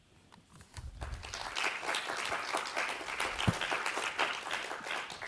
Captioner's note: audience applauds